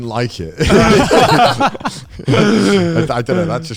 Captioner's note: all laughing